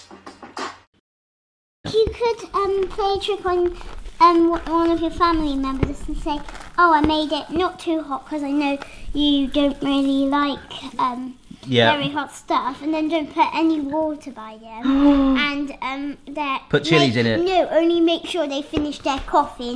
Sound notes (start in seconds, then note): 14.8 camera operator gasps